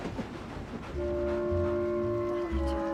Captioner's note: train whistle blowing